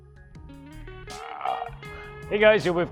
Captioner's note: derpy burp